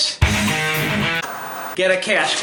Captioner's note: upbeat rock music; static buzzing